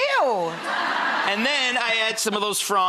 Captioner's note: audience laughs